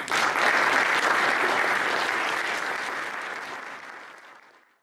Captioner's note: crowd applauds